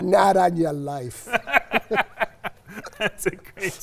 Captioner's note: both laughing